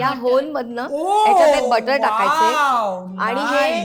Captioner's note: high pitch